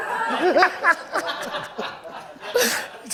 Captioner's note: laughter